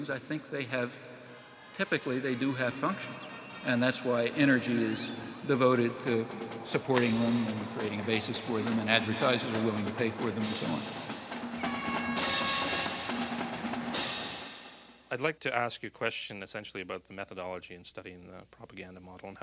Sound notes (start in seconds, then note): 11.4 horn blaring; 11.6 marching band music